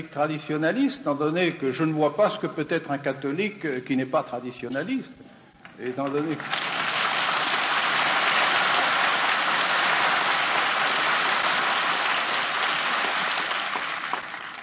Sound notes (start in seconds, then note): 10.0 applause